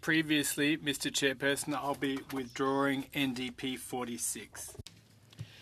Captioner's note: speaking French